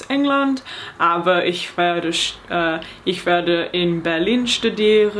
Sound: speaking in foreign language

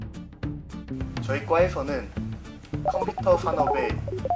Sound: robotic tone

